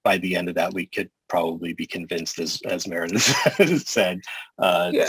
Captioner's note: laughter